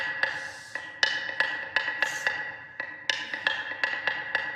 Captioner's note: yelling; making hsh noises